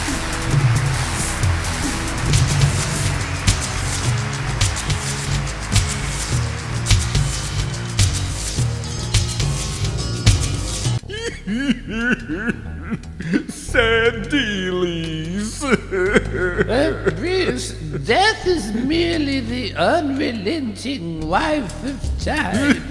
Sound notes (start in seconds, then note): 11.0 sobbing; 22.6 sobbing